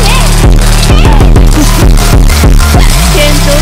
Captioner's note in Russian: смех